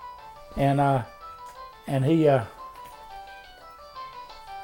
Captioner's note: phone rings in the background